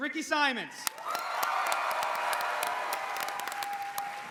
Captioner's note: cheers